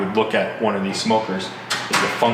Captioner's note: metal clangs